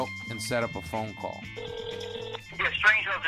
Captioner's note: phone ringing